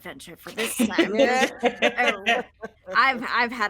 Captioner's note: all laughing